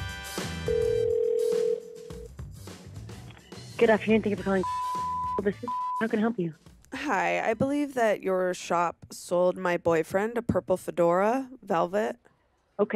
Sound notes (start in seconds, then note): 0.6 phone ringing; 4.6 beeping